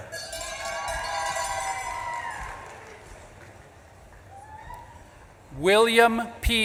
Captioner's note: bell clanging; audience claps and cheers